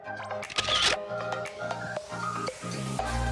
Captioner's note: camera Shutter Clicks